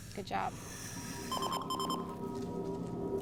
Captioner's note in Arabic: صفير إنذار